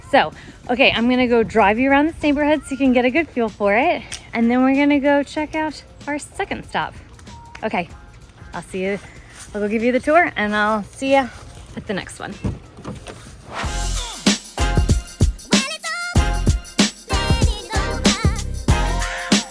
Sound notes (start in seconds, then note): 12.6 door clacks